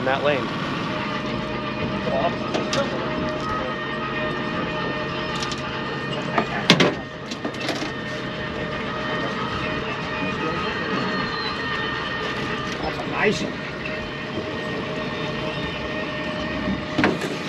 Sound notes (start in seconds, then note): 3.2 horn blaring; 5.3 clattering